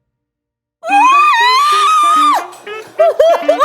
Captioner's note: makes dolphin noises